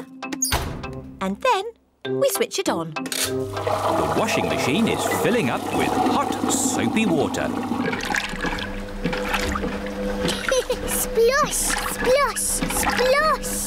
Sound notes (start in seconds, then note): 7.7 machine rumbles; 10.2 giggles